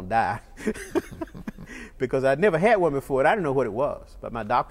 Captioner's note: laughter